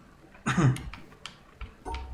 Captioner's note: coughs